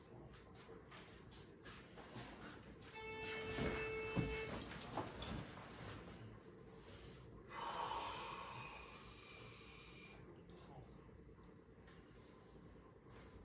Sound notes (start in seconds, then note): 9.0 exhale